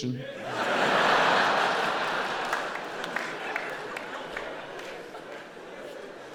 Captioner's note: audience laughing and applauding